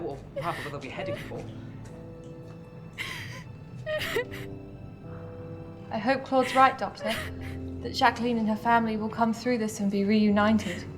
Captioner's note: crying in the distance